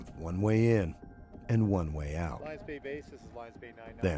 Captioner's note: voiceover